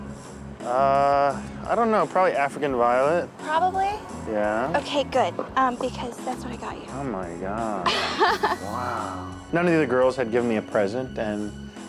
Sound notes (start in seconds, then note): 7.8 laughs